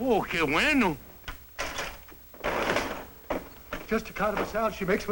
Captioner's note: non-english speech